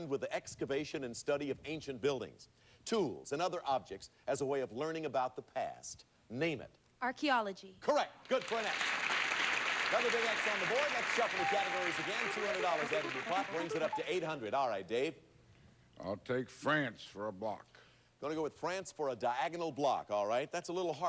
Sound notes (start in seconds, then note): 8.2 audience applauding